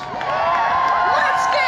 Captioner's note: cheering